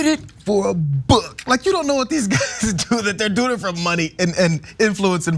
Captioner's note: laugh